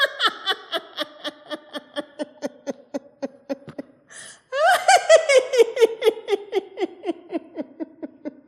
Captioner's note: laughter